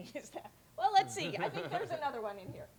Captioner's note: laughs